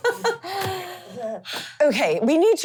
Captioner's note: laughing